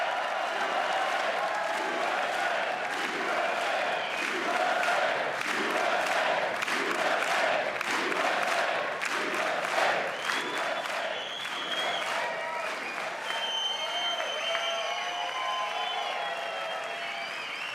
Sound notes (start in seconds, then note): 0.2 applause; 13.2 chanting usa